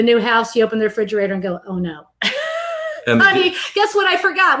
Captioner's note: laughs